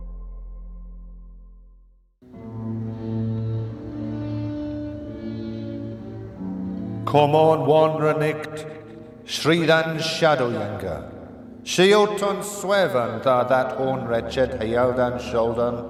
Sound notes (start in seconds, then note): 2.8 serene music; 7.3 speaking in foreign language